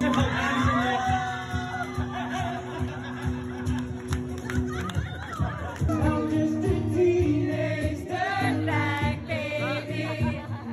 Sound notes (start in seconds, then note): 0.0 crowd cheering; 0.1 upbeat music; 2.8 crowd laughing